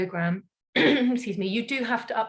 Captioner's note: clears throat